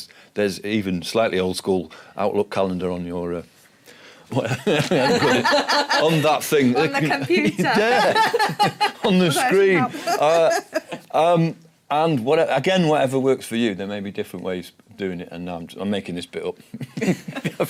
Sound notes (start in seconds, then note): 4.4 laughing